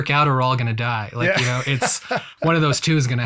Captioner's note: laughs